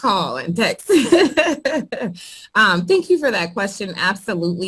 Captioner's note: laughs